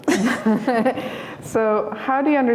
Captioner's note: laughter